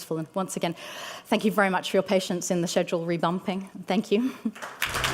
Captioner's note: applause